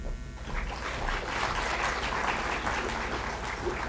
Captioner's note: applause